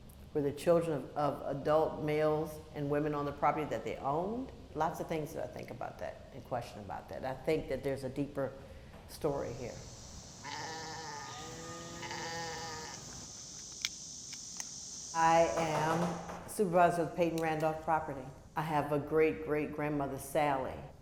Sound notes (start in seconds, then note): 10.4 sheep bleating